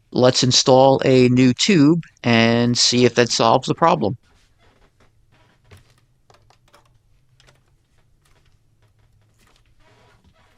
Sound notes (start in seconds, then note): none